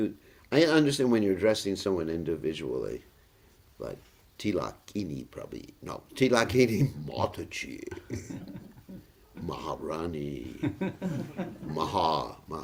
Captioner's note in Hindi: हँसी